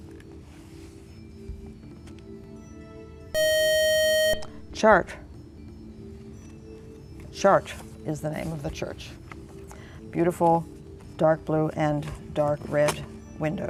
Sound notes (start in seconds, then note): 3.3 buzzer